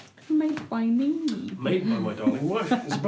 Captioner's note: chuckles